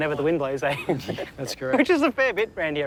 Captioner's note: laughs